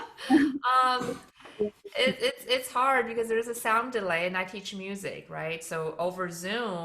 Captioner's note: laughs